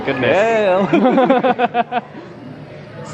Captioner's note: both laugh